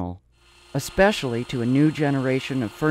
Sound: whirring

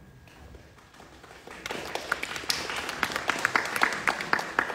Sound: audience clapping

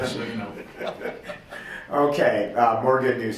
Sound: laughs

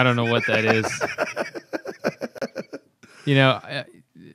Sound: laughter

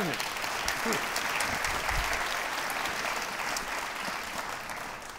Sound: audience applauds

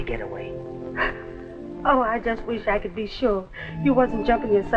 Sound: sobs

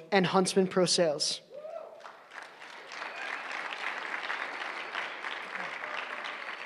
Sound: applause

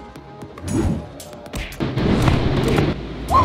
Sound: wooshing

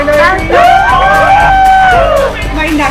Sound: cheering

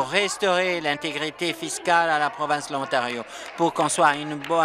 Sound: applause

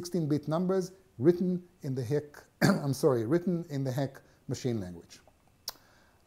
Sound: cough

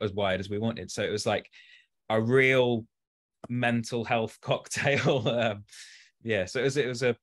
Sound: chuckles

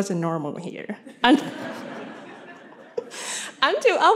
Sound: laughter

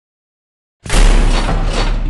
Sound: slam

